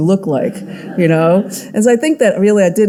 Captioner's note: audience laughing